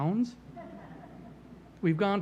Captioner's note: laughter